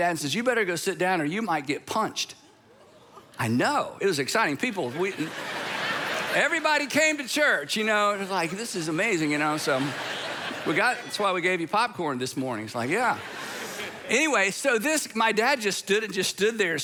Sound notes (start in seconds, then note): 2.2 congregation gasping; 4.6 congregation laughing